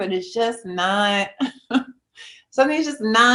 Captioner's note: chuckles